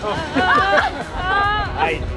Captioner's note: gasping